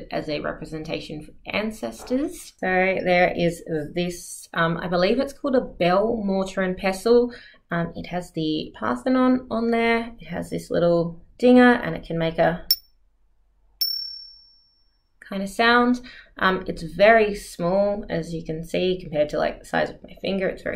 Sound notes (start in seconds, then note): 13.8 ting